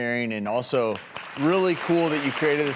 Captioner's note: applause